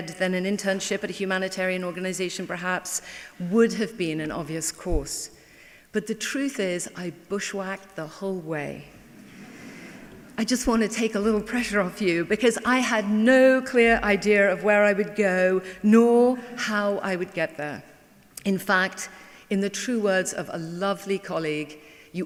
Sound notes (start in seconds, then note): 9.0 laughing